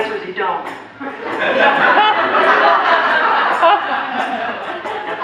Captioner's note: audience laughter